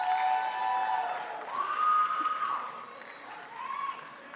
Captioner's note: crowd applauds